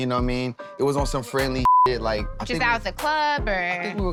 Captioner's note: beep